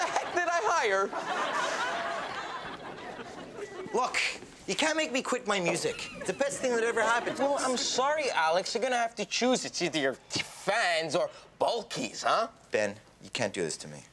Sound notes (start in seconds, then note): 0.0 audience laughs